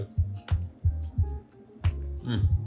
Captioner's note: gentle music continues; crunches